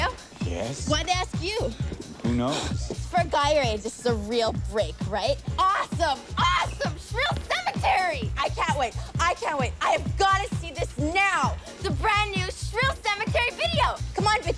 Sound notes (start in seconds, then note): 1.7 sighing